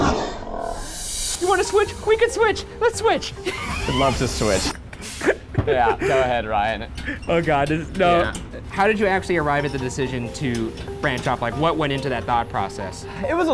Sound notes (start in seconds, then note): 5.1 laughing